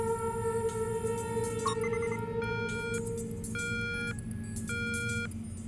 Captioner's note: electronic beeping